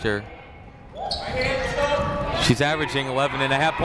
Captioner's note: people shouting in the crowd